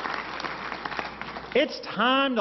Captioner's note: applause